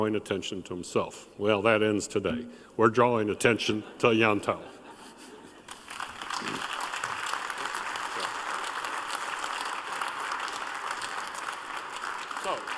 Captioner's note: applause